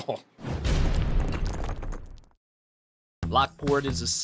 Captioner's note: air whooshing